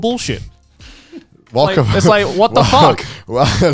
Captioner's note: laughing